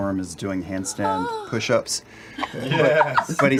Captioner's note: yawns; laughs